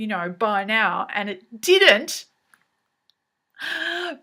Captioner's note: silent scream